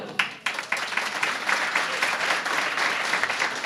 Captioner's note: applause